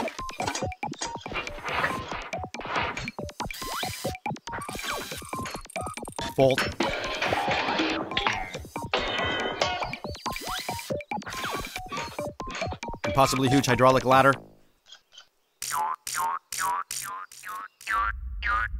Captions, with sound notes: [ clanking ] [ whirring ] Bolt. [ clanking/ springs popping ] [ whirring ] [ clanging ] Impossibly-huge hydraulic ladder. [ clicking ]